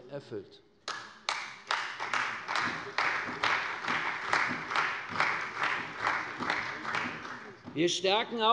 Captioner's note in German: Beifall bei der CDU und dem BÜNDNIS 90/DIE GRÜNEN